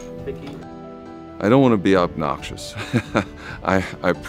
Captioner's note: laughs